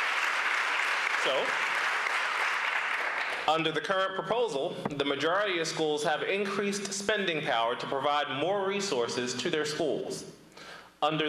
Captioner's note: applause